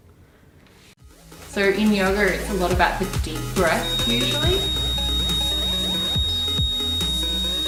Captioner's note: loud high pitched sound